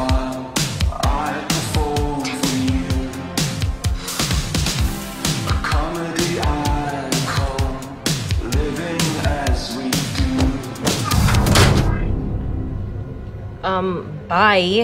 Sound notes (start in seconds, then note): 3.9 sighs; 10.5 edgy music